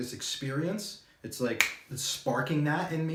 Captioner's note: fingers snap